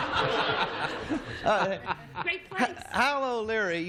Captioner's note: laughter